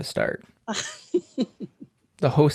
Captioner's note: laughs